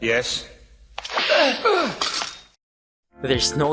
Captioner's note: slap